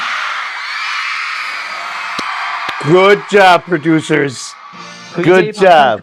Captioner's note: cheering